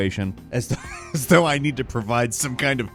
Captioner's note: chuckles